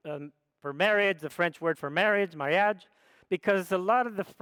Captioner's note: speaks foreign language